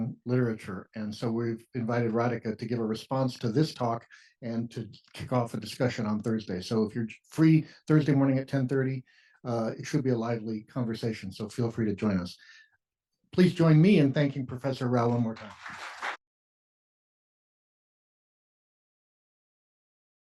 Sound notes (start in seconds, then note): 14.9 applause